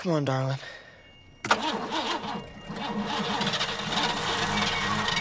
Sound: engine starts

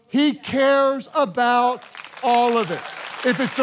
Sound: congregation clapping

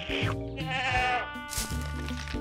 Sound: bleating

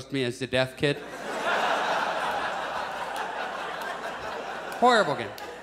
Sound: audience laughs

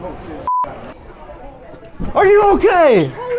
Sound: people chattering

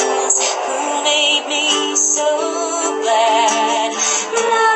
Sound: helicopter humming in background

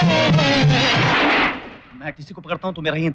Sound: brakes squeal

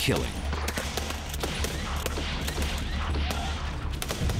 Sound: gunshots

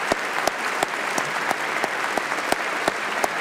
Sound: applause

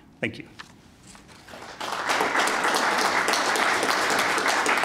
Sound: applauding

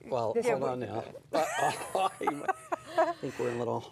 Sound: laughter

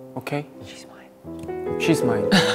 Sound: whispering

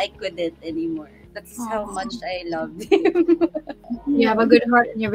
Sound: laughing

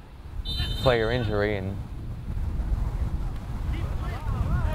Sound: whistle blows

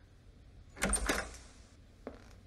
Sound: door open

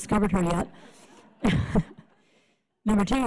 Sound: audience laughter

